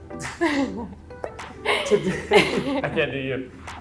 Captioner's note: both laughing